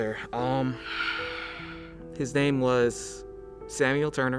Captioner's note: sigh